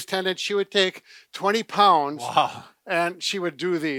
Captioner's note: laughs